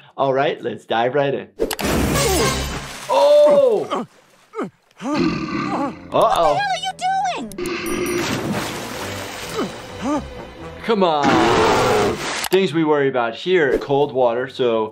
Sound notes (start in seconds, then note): 5.0 Stan groaning; 5.0 bear growls; 10.0 Stan groaning; 11.2 bear growls